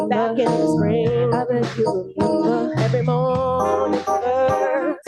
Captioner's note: none